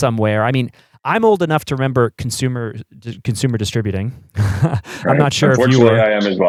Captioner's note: laughs